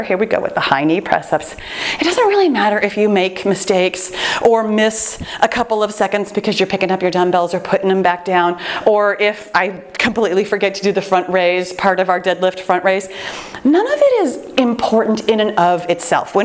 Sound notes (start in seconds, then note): none